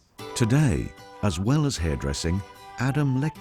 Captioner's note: moves into upbeat music; voiceover